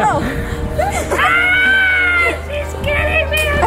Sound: screaming

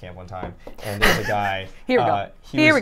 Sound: cackling

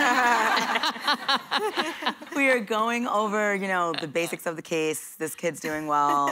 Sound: laughter

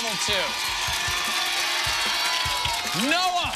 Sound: cheers and applause

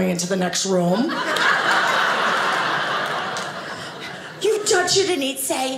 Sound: audience laughing

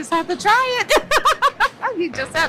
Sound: laughs

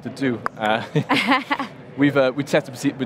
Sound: laughing

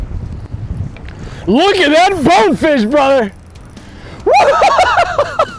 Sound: laughs

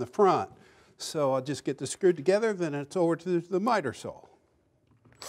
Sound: drill drilling

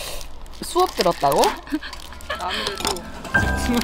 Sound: laughs

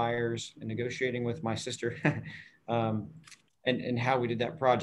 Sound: chuckles

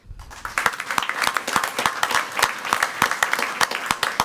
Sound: crowd clapping

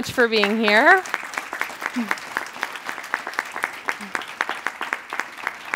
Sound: applause

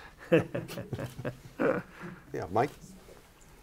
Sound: laughter

